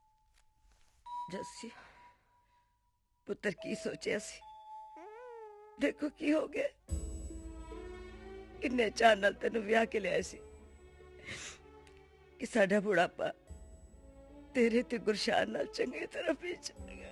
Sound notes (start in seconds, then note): none